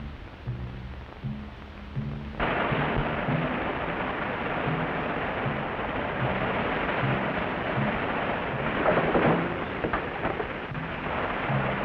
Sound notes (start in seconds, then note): 2.5 water sloshes; 8.8 door clatters